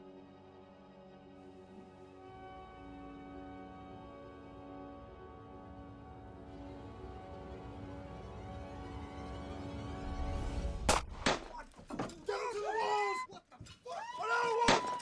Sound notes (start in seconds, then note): 10.8 gun fires